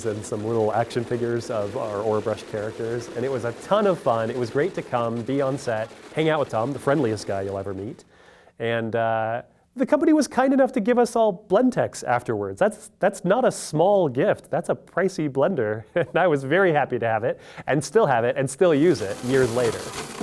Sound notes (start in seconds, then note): 15.8 chuckles